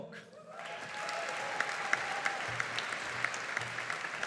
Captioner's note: audience applauding